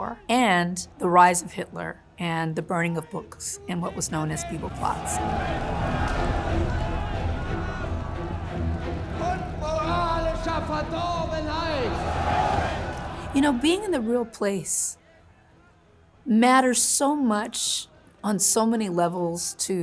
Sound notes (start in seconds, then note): 5.2 flames blazing; 5.5 crowd yelling; 7.0 ominous music; 9.5 soldier speaking in German; 12.5 crowd chants